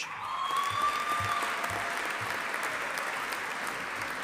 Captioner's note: audience applauding